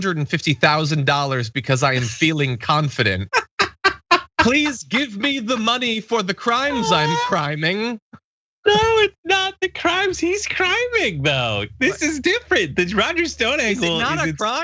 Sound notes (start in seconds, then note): 3.4 laugh